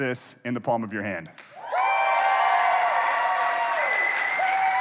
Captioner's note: applause